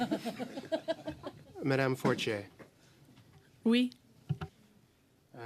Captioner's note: laughter